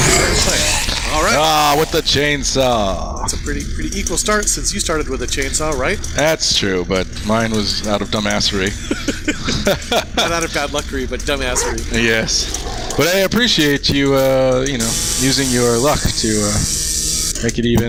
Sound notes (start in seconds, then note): 8.6 laugh; 12.0 laughing